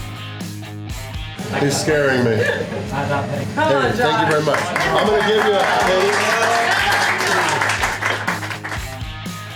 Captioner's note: crowd cheering